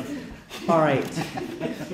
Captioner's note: laughter